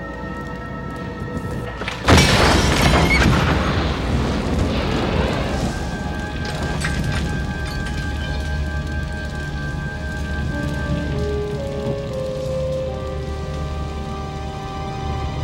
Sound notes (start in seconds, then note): 1.8 explosion booming; 7.4 eerie music; 7.4 glass shards clattering; 12.4 suspenseful music